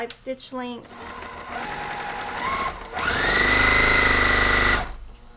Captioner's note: machine whirring